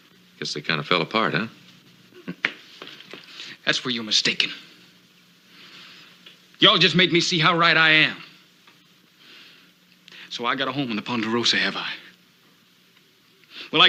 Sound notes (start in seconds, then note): 2.1 Ben chuckles